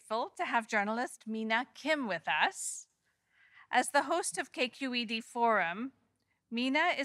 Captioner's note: none